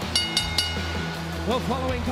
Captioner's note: bell rings